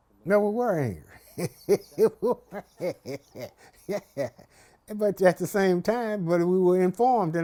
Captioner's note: laughs